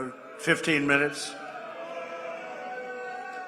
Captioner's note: applause